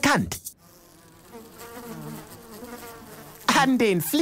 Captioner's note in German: Fliegensurren